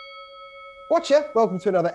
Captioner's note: ding, ding, ding